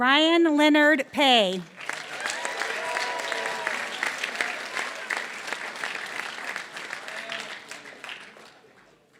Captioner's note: applause